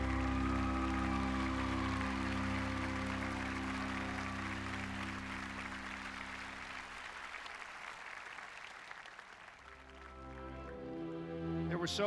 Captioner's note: applause